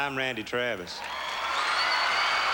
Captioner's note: applause